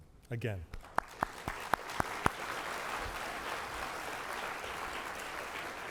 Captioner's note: applause